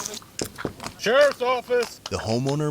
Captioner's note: knocking